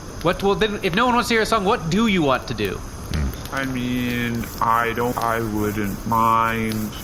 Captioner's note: scratching